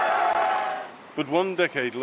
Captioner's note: cheering